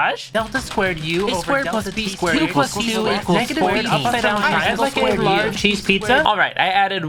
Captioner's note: coding over furious typing